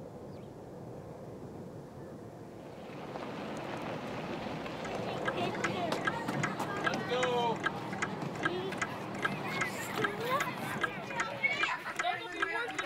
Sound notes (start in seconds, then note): 5.5 children chatter; 7.3 clock ticks